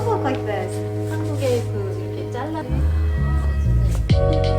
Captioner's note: speaking Korean